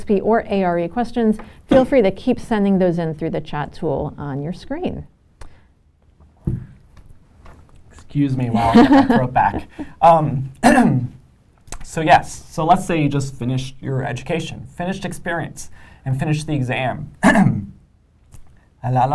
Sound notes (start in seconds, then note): 14.2 coughs